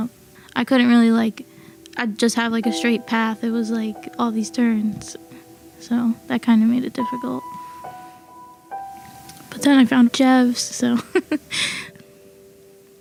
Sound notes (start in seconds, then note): 11.0 laughs